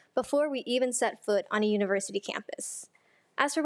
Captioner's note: none